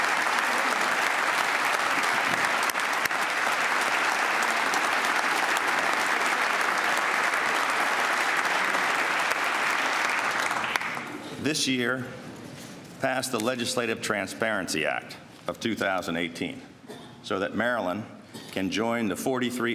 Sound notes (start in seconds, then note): 4.3 applause